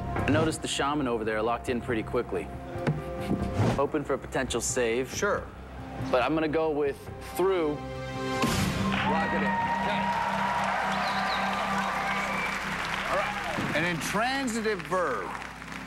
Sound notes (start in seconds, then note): 8.8 cheers and applause